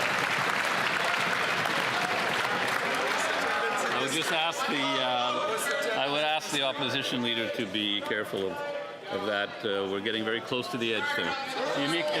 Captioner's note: some Applause